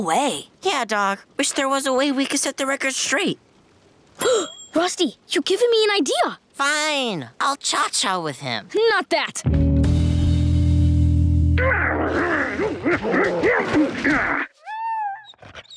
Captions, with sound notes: Yeah, dawg. Wish there was a way we could set the record straight. [gasping] Rusty, you've given me an idea! Fine... I'll cha-cha with him. Not that. [grunting] [whimpering]